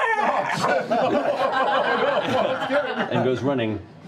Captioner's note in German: Kreischen und Knurren; Lachen